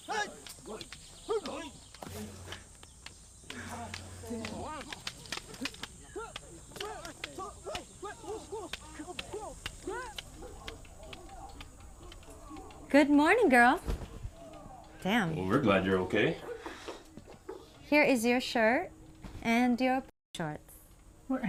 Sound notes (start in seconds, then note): 0.1 men grunting; 4.7 sticks smacking